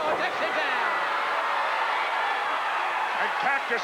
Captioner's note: crowd cheering